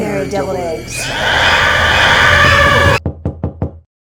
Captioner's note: screaming; fist knocking